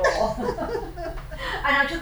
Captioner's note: laughing